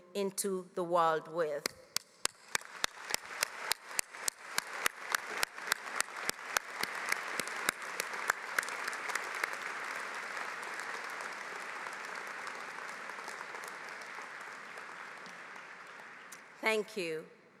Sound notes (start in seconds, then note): 5.8 applause